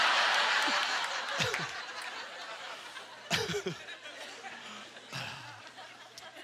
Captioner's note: audience chuckling